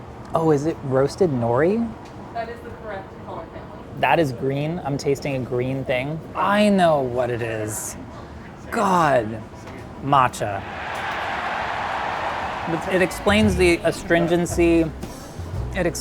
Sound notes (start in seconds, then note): 10.5 crowd cheers